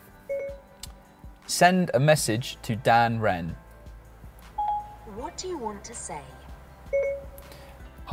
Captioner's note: ding-ding